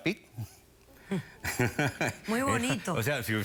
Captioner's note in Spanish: risas